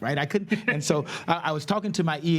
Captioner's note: laughs